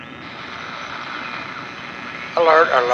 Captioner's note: radio static